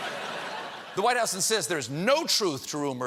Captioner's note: laughter